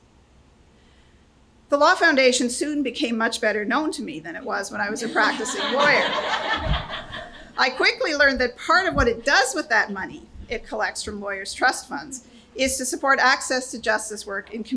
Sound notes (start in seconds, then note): 5.0 laughter